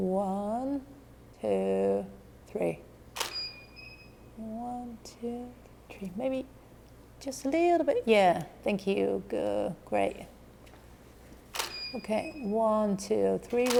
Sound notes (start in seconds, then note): 3.2 shutter clicking; 11.5 shutter clicking